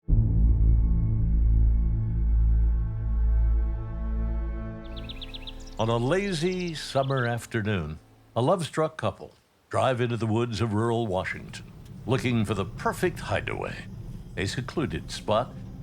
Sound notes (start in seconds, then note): 1.4 ominous music; 4.8 birds chirping